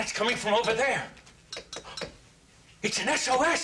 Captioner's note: tap tap tap